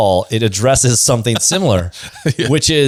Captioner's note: laughs